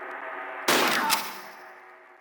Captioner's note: bam